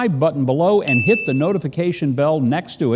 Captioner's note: bell dings